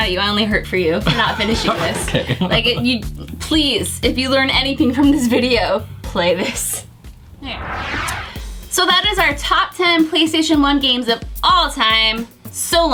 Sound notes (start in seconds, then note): 7.0 whoosh